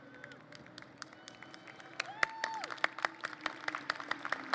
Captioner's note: applause